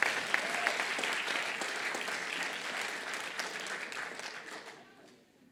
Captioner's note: applause